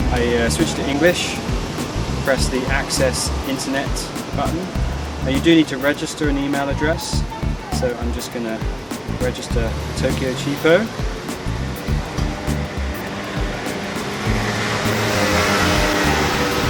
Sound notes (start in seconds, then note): 11.2 car engines rustling